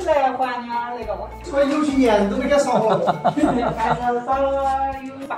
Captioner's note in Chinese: 哈哈哈哈哈